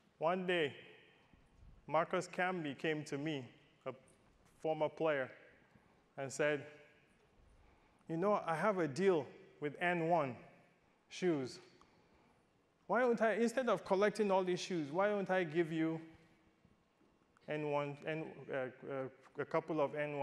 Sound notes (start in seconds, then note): none